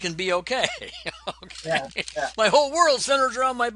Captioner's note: laughs